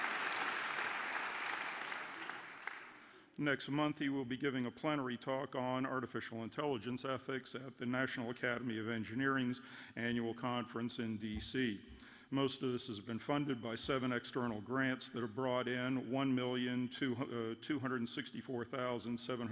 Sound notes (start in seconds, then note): 4.8 applause